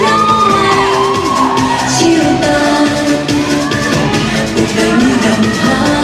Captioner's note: cheering